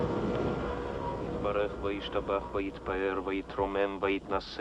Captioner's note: chanting in Hebrew